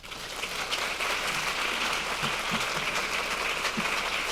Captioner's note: audience clapping